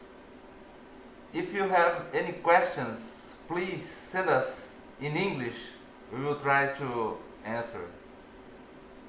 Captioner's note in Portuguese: in English